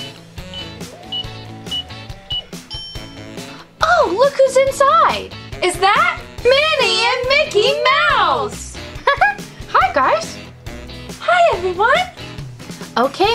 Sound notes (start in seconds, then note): 2.3 bell dings; 8.9 giggles